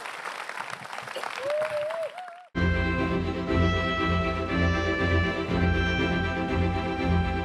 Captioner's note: applause